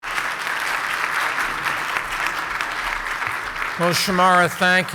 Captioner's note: audience applauds